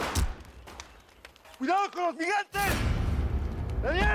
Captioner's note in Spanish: Disparos